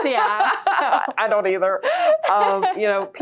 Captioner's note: both laughing